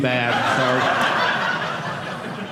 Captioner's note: audience laughing